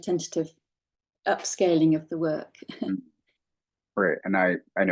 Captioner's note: laughing